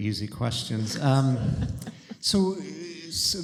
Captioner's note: laughter